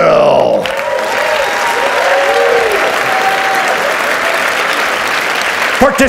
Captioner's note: audience cheers and applauds